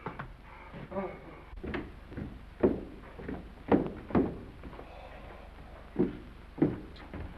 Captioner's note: footsteps down stairs